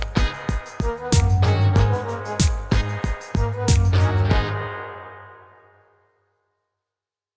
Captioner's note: clap